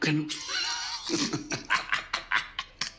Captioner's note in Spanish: Risas